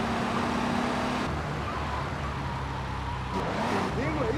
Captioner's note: sirens wailing